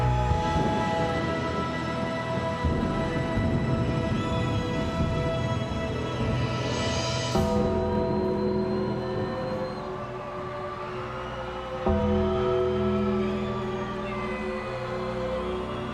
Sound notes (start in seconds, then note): 0.8 crowd cheering; 0.8 dramatic music continues